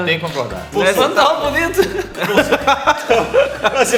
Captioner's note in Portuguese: Risos